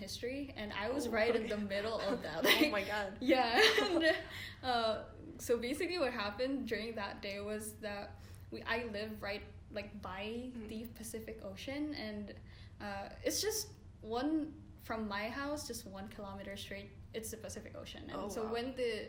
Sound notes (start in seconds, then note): 1.0 laughs